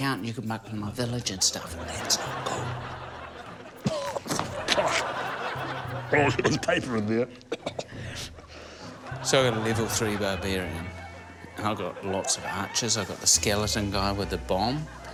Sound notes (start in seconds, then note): 1.6 laughter; 3.8 coughs; 4.7 laughter; 7.4 coughs